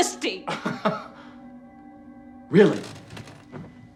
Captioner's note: Chuck laughs